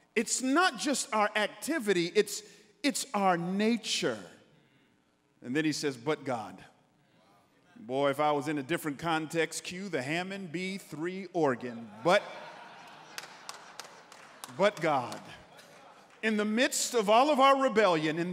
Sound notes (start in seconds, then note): 11.7 congregants laughing